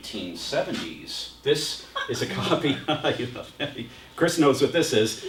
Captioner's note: laughter